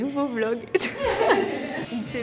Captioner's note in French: rires